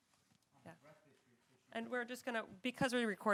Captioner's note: man speaking off mic